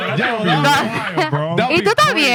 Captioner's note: laughing